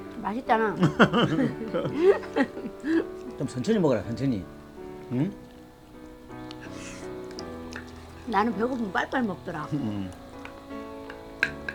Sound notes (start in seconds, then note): 0.8 both laughing